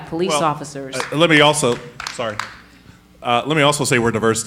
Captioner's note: audience applauding lightly